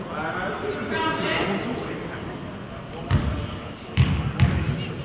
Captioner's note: audience murmurs